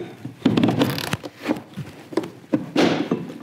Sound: clanging

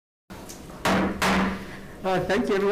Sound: gavel bangs twice

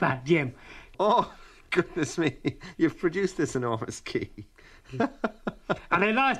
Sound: laughs

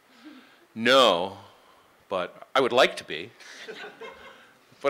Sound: laughing

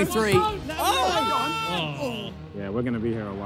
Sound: players exclaim

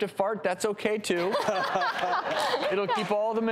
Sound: laughter

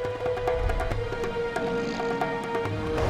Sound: grunting

